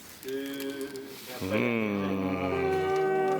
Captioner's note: ohs and Ahs